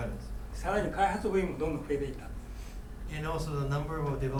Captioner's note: speaking in foreign language